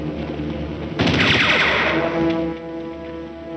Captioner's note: gunshots